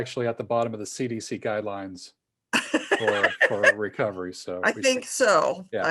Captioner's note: laughs